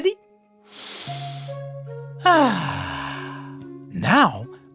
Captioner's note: breathes deeply